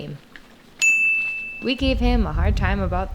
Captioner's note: ding